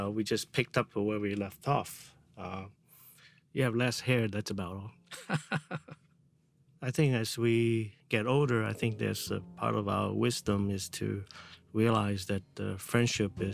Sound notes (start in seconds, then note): 5.1 laughs